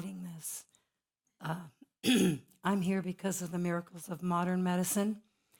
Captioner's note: cough